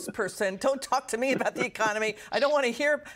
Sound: laughter

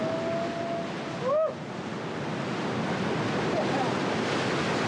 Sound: sound of the sea

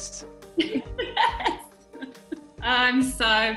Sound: laughs

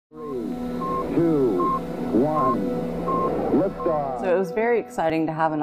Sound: fuzzy Intercom Voice- Male

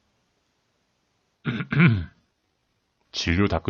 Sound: clearing one's throat

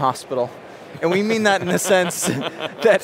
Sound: laughter

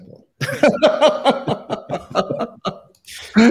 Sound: laughter

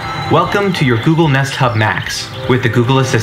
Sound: male Voice

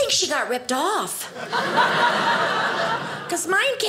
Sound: audience laughing

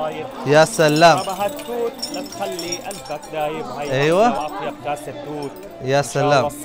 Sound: Arabic

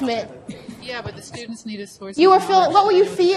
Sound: voiceover

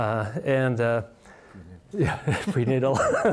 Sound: speaks softly; laughs

